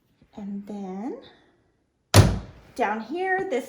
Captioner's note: cardboard door closes